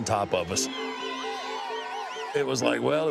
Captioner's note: fans whistle and cheer